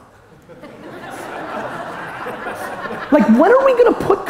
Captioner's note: audience laughter